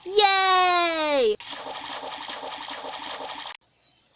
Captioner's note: minecraft water noises splash splash splash splash splash